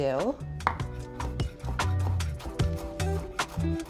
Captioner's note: knife thuds